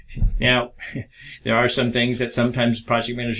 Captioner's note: chuckles